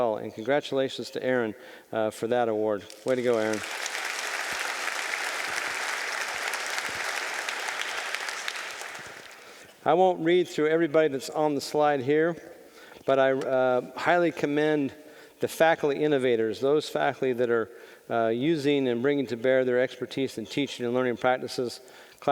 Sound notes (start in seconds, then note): 2.8 audience applauding